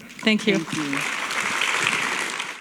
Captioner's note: applause